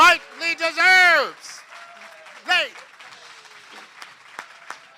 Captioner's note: applause